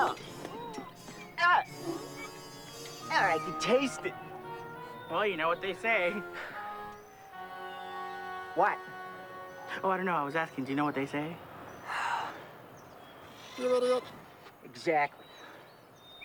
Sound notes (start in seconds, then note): 0.0 tiger farting; 0.0 Seymore and Marvin groaning; 13.2 parrot trilling; 13.5 Seymore sighing